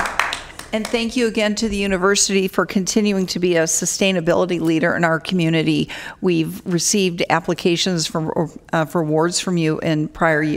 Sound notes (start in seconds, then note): 0.0 applause